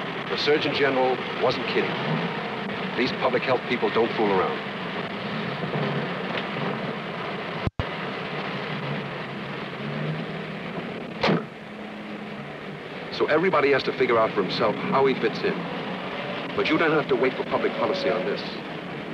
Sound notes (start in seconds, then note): 4.8 car door opens; 11.2 door closes